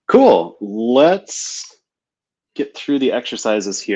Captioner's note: none